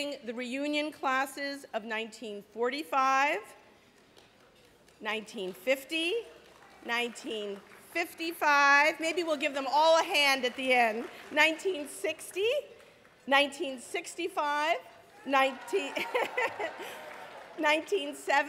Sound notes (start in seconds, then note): 15.5 laughing